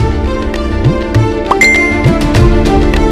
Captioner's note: Cell phone dings